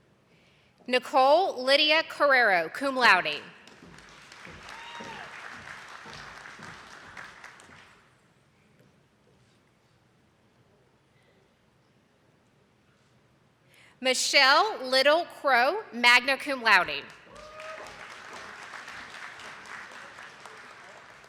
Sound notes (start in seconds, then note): 3.6 attendees clapping; 16.9 attendees clapping